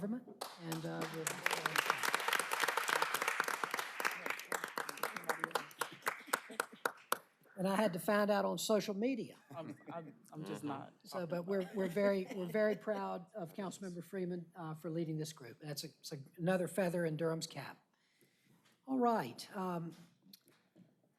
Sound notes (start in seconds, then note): 5.6 applause